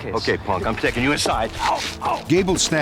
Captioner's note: struggling sounds